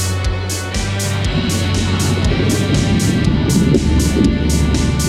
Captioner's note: whooshing